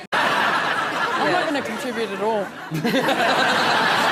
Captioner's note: audience laughs